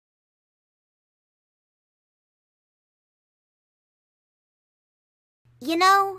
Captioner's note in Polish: grobowa cisza